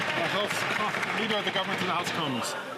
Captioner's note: some Applause